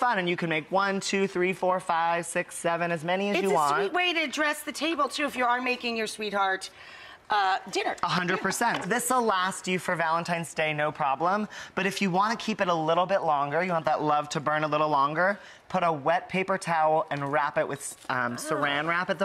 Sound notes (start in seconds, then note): none